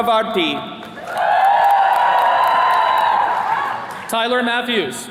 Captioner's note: attendees cheering